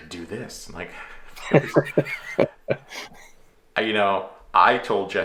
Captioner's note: laughing altogether